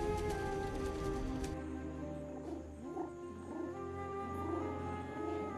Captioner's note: cooing